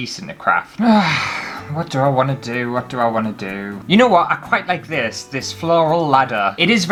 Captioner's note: sigh